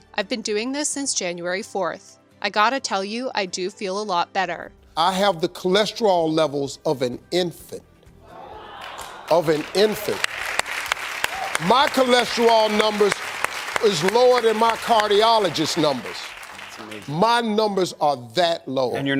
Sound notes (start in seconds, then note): 8.2 audience gasps wows and claps; 10.5 guest clapping